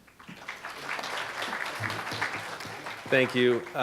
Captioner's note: audience clapping